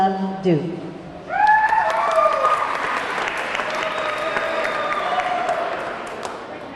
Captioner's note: audience cheering; audience clapping